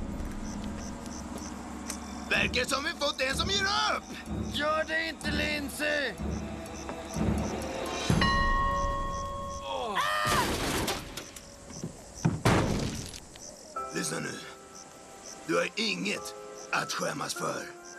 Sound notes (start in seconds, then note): 8.1 dings; 9.1 all sigh